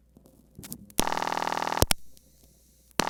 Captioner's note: ringback tone